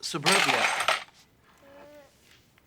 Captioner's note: clattering